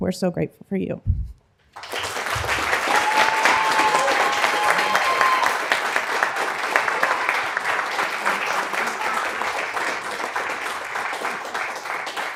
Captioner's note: applause